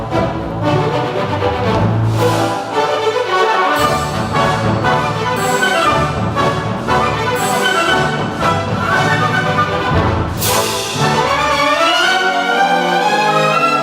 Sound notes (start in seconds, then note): none